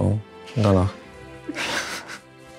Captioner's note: laughter